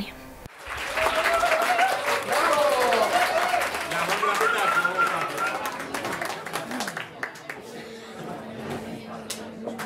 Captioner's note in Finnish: Aplodeja